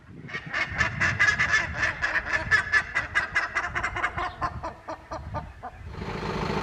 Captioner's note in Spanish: sonido de las bandurrias, un clásico del sur